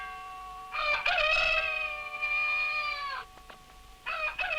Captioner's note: bell clanging; rooster crows